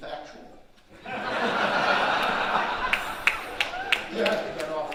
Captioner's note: audience laughing